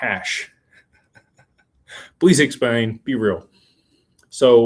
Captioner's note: laughter